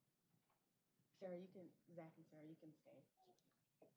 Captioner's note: indistinct chatter